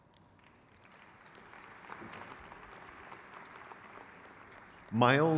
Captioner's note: crowd claps